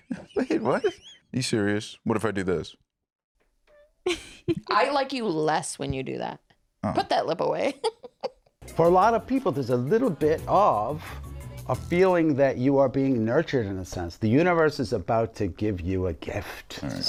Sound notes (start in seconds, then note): 4.0 laughs